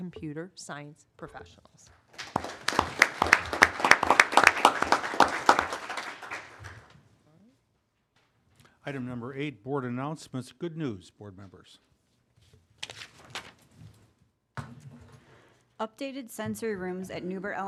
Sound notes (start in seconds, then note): 2.1 applause